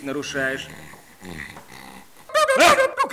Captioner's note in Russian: храп